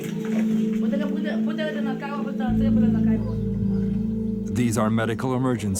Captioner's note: dramatic music; woman speaking in foreign language